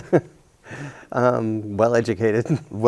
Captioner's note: chuckles